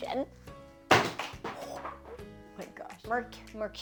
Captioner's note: books clatter